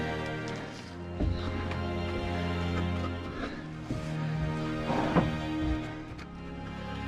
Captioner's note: cracking; shuffling; heavy breathing